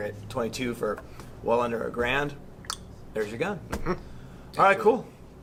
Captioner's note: clicks tongue